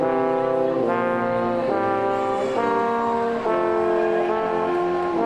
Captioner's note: audience clamoring